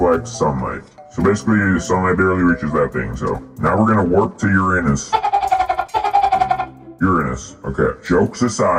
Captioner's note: laughing